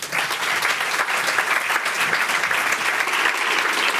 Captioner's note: applause